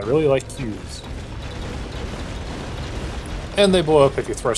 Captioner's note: touristy explosions